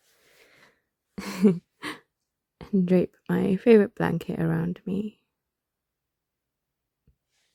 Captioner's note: laughs